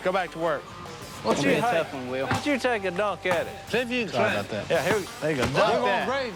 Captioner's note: indistinct chatter